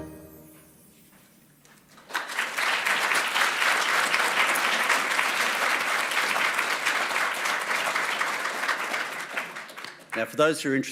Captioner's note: applause